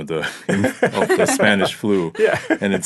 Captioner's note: laughing